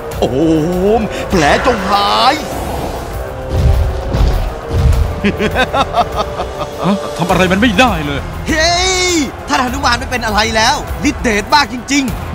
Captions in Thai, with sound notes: โอม แผลจงหาย (หัวเราะ) หา ทำอะไรมันไม่ได้เลย เย่ ท่านหนุมานไม่เป็นอะไรแล้ว ฤทธิ์เดชมากจริงๆ